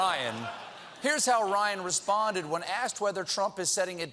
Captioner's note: laughter